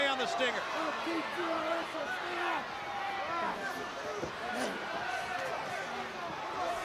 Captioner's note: crowd chatter